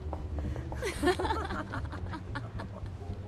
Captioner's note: women giggling